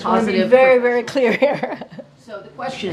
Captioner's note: laughs